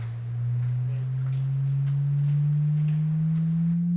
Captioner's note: machine echoing